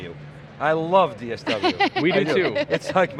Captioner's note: laughs